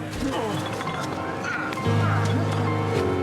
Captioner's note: upbeat music playing; people struggling in the background